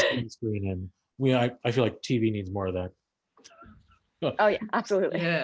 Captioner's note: laughs